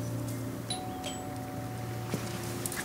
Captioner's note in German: Klingeln